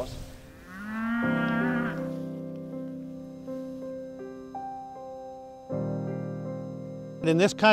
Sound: cows mooing

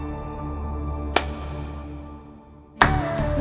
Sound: clapping

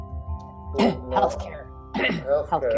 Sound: clears throat

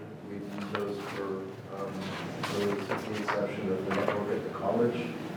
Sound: speaking off microphone

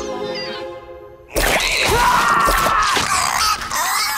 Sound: screaming

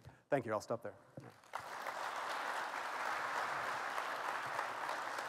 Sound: applause

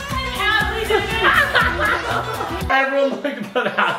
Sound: laughs

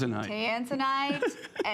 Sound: laughter

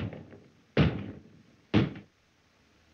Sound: bang

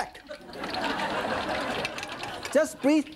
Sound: audience laughing

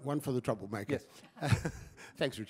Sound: laughter

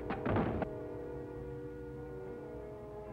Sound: crash

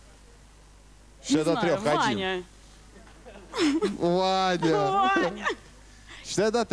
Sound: laughter

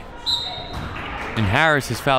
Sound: whistle

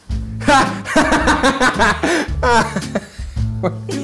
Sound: laughing

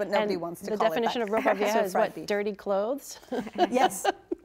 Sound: laughs

